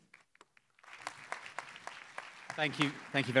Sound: applause

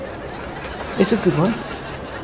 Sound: audience laughs

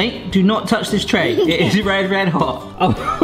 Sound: giggles

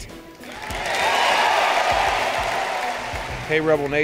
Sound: cheering

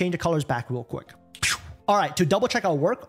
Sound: air swooshes

